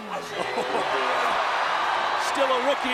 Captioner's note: crowd cheering